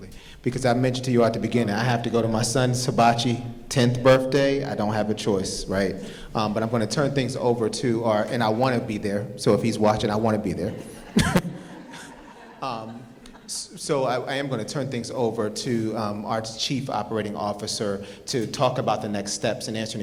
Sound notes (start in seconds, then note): 10.6 audience laughing